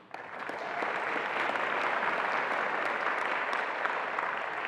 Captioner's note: attendees applauding